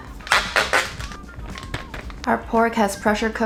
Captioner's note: plastic squeaking; plastic crinkling